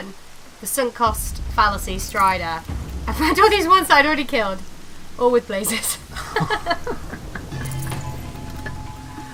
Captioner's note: laughing